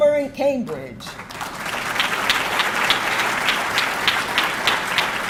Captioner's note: audience clapping